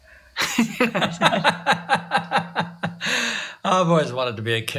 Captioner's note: laughs